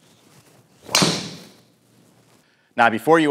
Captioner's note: club pings on contact with ball